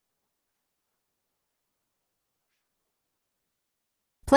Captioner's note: silence